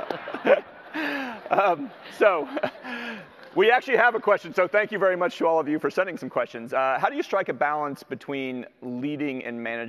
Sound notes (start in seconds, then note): 0.0 audience laughter; 0.0 laughs